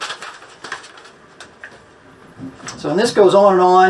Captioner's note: flipping pages